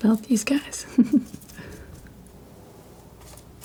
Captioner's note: chuckles; scratching